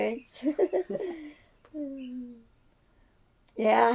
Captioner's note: laughs